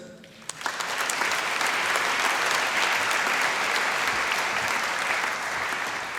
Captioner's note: applause